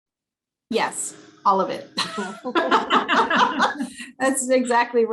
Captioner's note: laughter